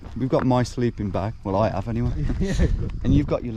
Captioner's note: chuckles